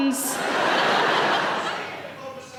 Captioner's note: audience laughing